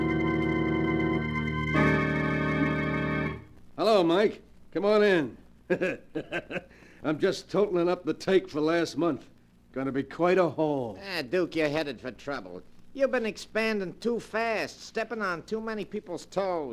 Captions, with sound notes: Hello, Mike. Come on in. (CHUCKLES) I'm just totaling up the take for last month. Gonna be quite a haul. Ah, Duke, you're headed for trouble. You've been expanding too fast, stepping on too many people's toes.